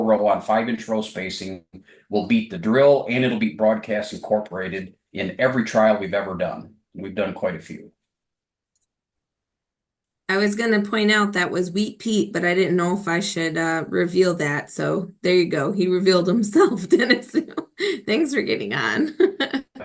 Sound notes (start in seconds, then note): 18.6 laughs